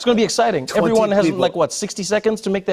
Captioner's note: laughs